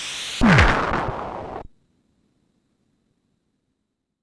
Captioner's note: crash